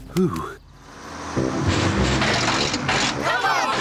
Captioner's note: bus splutters